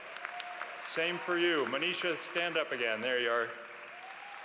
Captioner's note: applause